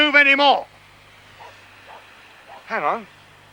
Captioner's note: barking in distance